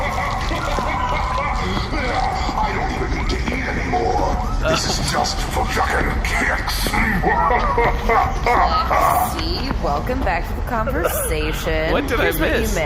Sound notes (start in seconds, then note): 2.9 laughing